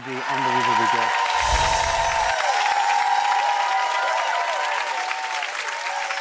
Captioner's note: audience applauds and cheers